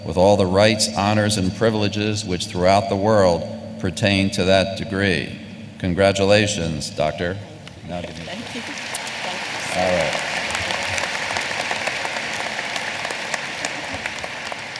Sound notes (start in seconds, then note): 11.3 applause